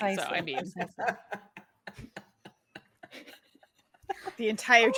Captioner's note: cast laughing